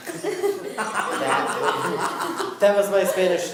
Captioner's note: laughing